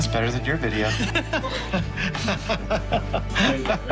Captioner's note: both laugh